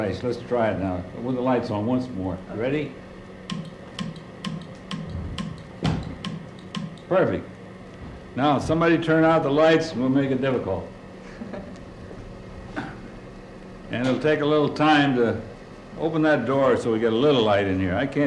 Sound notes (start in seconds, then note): 3.5 clicks